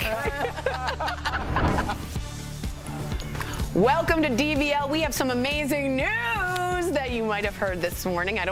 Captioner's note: laughter